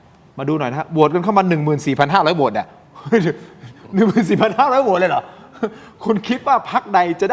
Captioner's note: laughs